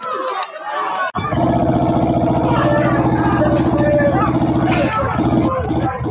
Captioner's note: vehicle engine roaring